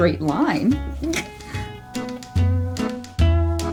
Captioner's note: chokes in disbelief